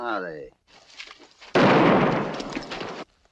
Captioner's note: gunshot